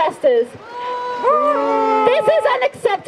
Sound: crowd boos

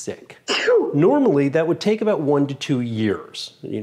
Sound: sneeze

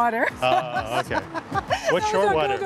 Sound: laughs

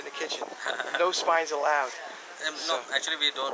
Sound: laughs

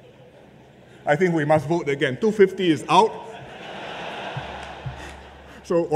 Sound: laughter

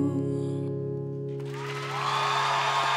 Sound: audience cheering

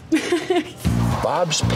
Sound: laughs

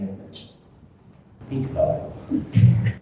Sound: chuckles

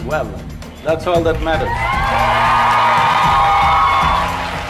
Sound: cheering/Applause

